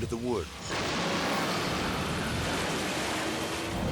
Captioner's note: car crashing